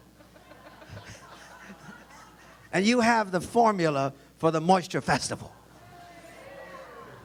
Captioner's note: audience laughs; laughs